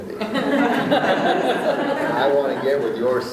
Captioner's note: laughing